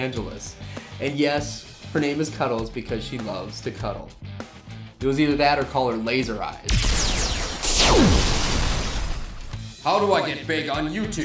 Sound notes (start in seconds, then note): 6.7 lasers zapping